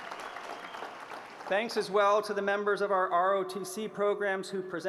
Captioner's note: applause